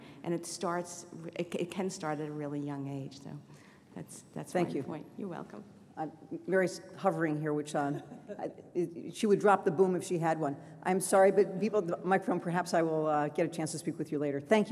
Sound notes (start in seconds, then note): 7.8 laughs